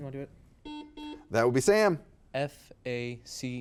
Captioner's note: buzzer beeping